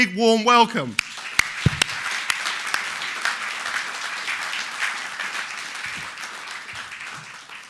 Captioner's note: audience applauding